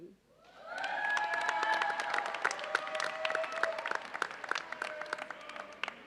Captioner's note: audience cheers and applauds